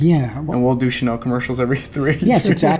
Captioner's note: laughing